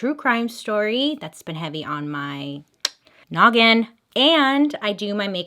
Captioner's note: clicks tongue